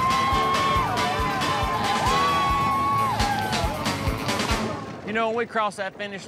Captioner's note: both cheering